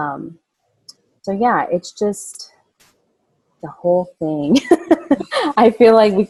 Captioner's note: laughing